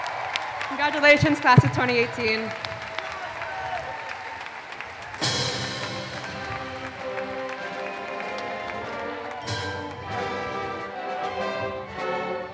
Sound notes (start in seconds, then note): 3.4 applause